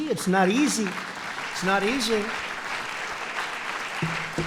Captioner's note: applause